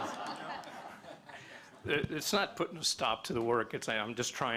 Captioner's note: laughter